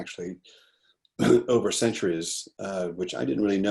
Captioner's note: clears throat